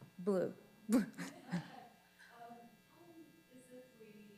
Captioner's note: chuckles